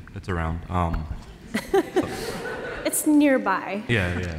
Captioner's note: laughter